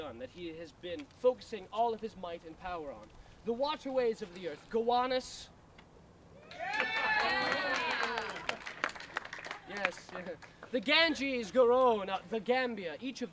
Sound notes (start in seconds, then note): 6.5 applause and cheers